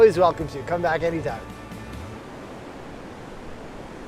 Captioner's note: waves crashing